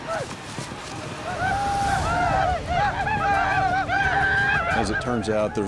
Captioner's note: commanche yelling